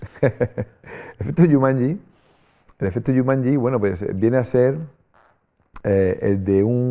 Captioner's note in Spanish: Risas